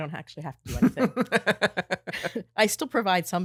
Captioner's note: both laughing